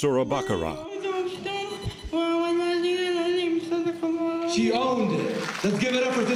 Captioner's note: reciting payer in Arabic